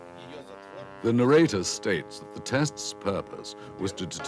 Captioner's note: speaks in foreign language